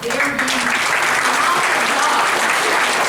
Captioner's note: applause